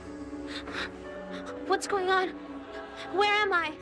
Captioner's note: expressive and eerie orchestral music; gasping